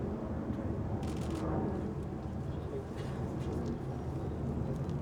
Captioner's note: camera clicks